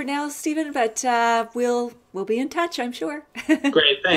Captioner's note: laughs